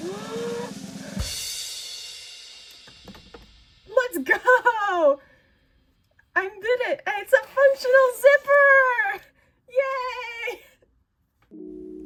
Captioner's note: relieved gasp